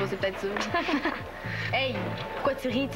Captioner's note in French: Rires